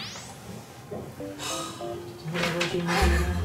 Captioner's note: sigh